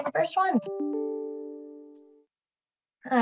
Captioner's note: Microsoft sound